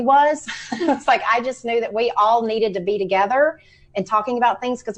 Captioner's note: laughs